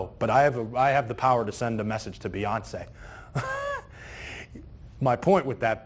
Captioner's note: laughs